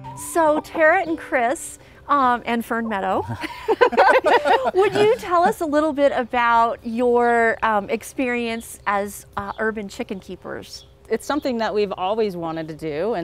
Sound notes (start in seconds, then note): 3.2 everyone laughs